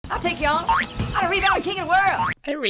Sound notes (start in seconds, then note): 0.6 spring boings